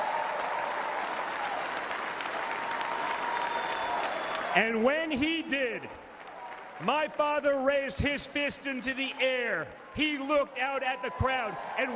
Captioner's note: applause